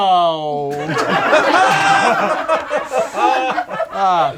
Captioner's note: group laughs